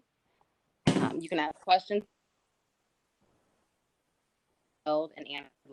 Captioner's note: audio cuts out